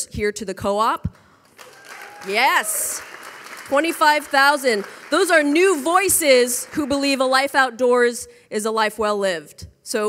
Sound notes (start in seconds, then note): 1.5 audience applauding; 1.6 audience cheering